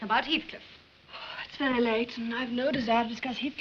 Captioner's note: sighs